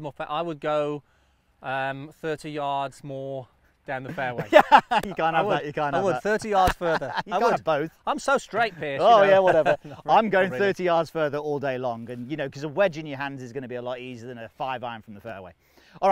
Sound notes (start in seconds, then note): 4.0 laughing